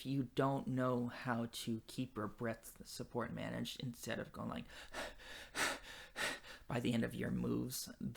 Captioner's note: breathing